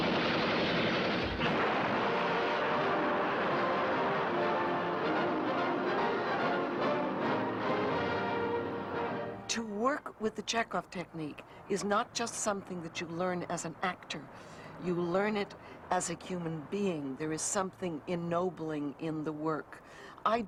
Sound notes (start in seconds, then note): 1.6 dramatic orchestral music; 2.4 oil spurting